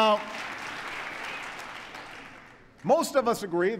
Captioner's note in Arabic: تصفيق